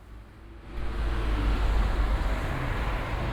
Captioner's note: sound of traffic